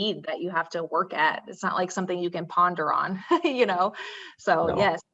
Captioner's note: laughs